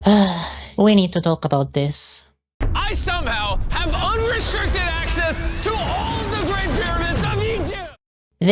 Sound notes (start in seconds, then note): 0.0 sigh